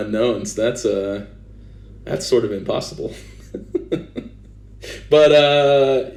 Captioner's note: laughs